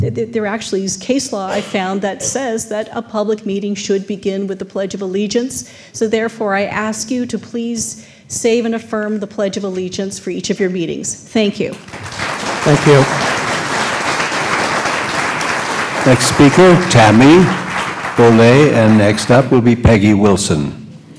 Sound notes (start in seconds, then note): 14.6 applause